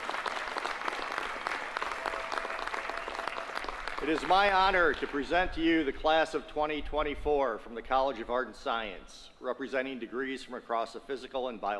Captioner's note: applause